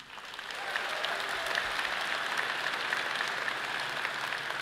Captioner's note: audience applauding